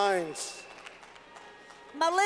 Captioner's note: clapping